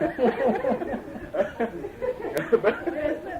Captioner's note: laughter